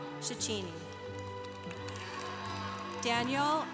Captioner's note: congregation applauding